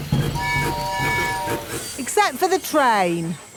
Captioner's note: train tooting